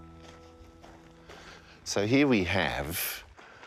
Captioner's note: feet crunching gravel